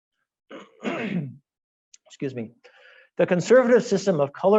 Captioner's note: clearing throat